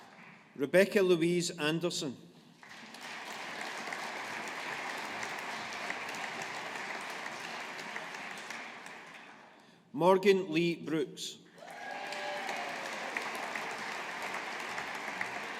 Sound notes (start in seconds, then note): 2.6 audience applauding; 11.6 audience applauding